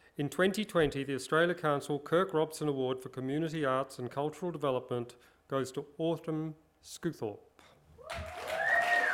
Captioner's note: cheering and applause